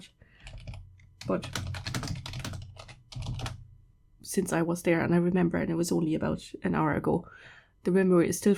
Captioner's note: typing